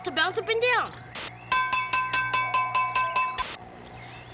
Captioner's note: clanging